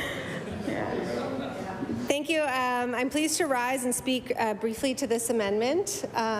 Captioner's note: laughter